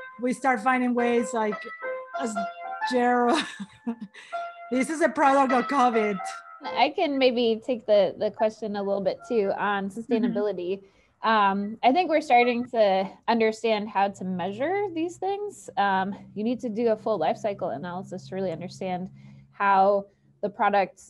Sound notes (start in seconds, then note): 3.6 laughs